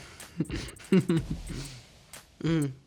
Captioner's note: Javon chuckling